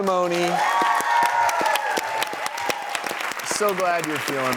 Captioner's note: applause